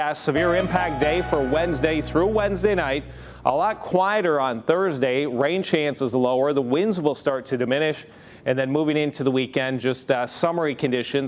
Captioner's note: chimes